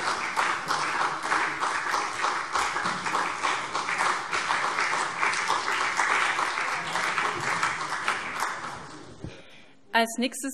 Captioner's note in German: Beifall CDU und BÜNDNIS 90/DIE GRÜNEN